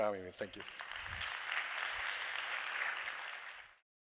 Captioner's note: applause